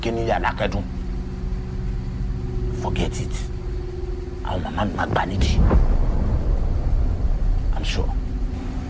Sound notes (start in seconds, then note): 4.2 speaking in foreign language